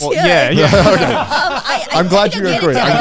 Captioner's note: everyone laughing